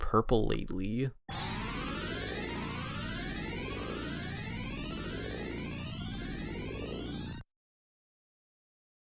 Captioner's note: Sonic CD time travel sound